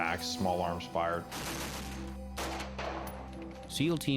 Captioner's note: gunfire